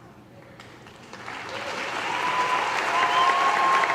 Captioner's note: audience applause